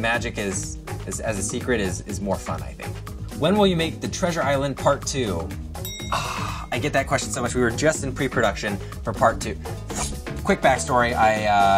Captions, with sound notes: So the magic as a secret is more fun I think. When will you make The Treasure Island Part 2? [ring] I get that question so much. We were just in pre production for part 2. Quick backstory.